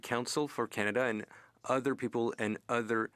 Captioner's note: speaking French